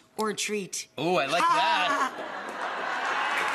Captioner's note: laughs